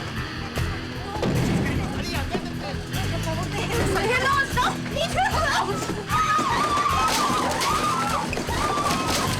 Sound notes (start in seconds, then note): 2.7 women speaking in foreign language; 5.2 women screaming